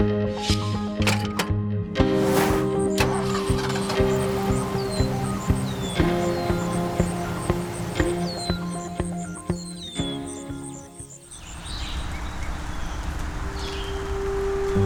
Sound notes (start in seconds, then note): 2.2 engine starting, birds chirping; 12.2 birds chirping